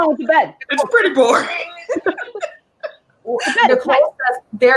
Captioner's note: laughing